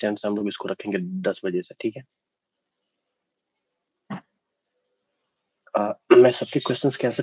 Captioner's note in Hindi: गला साफ़ करने की आवाज़